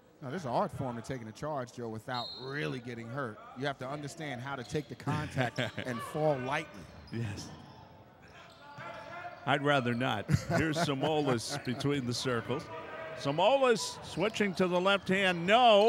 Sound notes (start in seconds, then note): 10.2 laughing